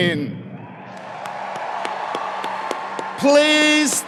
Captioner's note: audience applauds